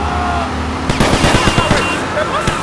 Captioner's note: gun firing